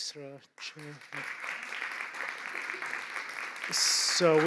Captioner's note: applause